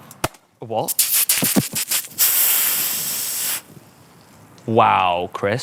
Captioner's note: champagne sprays